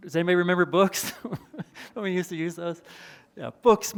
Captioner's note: chuckles